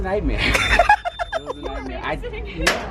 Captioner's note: laughter